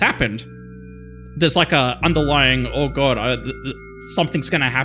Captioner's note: stutters